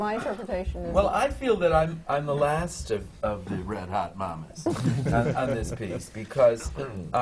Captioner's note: laughter from the panel